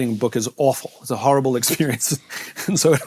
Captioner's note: chuckles